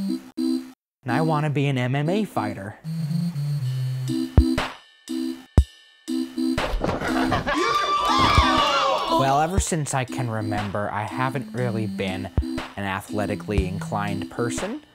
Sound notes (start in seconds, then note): 7.2 crowd screams